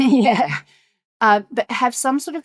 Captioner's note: chuckling